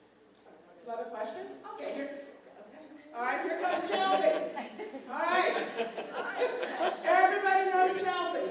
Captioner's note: laughter